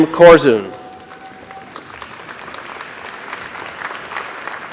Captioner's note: applause